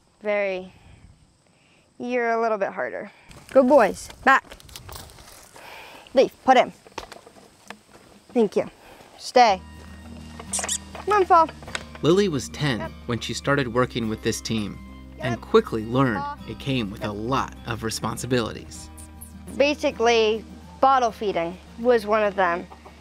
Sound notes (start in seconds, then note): 10.4 clicking with mouth